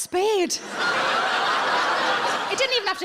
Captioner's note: audience laughs